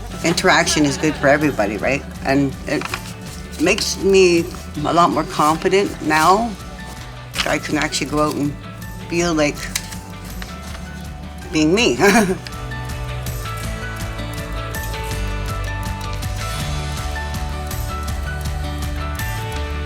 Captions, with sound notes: - Interaction is good for everybody, right? And it makes me a lot more confident now. I can actually go out and feel like being me (chuckles). (cheerful music continues)